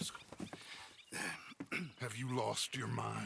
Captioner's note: clears throat